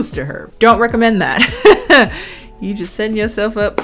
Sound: chuckles

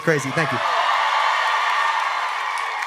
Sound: audience cheering

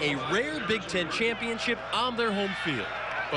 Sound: cheering

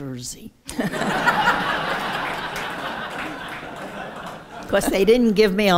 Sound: laughter

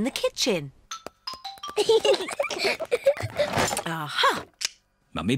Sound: peppa and george giggling

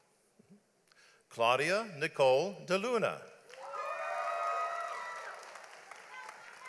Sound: audience applauds

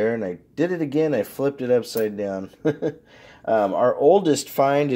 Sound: chuckles

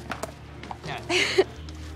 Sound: chuckles

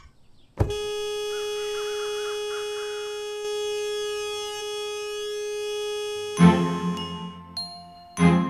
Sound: honking

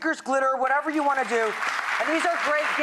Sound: audience applause

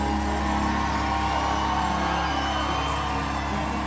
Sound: crowd cheering

